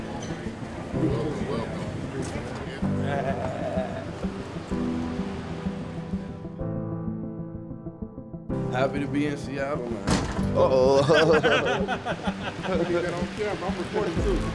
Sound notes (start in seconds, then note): 10.8 all laughing; 10.8 laughs